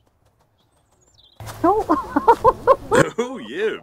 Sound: laughes

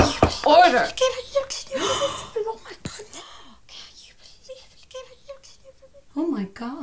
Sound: more gasps

